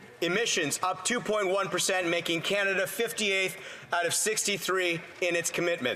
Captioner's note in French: voix de l'interprète